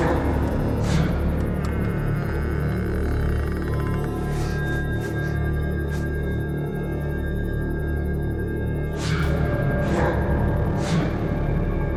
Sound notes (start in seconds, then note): 0.0 creaking; 3.3 ominous music